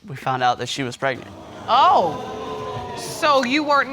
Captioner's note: audience exclaiming